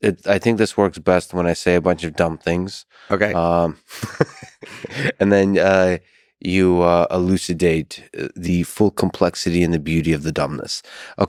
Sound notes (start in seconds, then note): 3.9 chuckles; 3.9 Lex chuckles